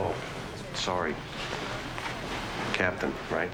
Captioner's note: none